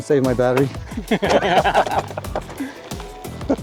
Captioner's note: laughter